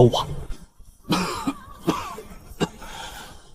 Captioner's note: cough, cough